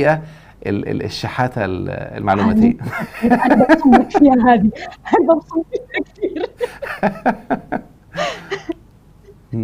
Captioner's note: laughs